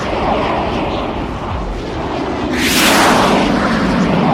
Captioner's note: jet engine streaming